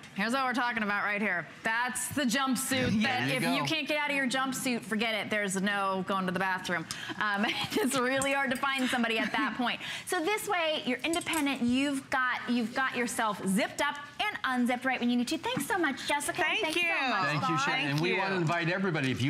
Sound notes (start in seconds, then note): 9.0 laughter